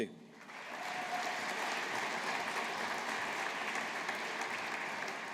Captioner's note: audience applauding